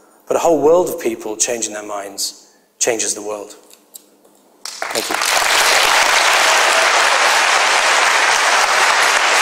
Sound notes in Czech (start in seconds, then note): 6.8 potlesk